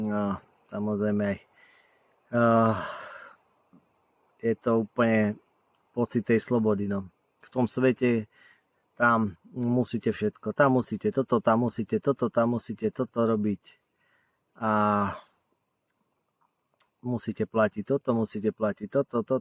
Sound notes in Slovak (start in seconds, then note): 2.4 vzdychanie